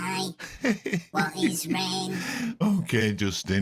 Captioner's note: laughs